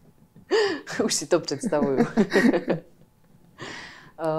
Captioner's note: laughs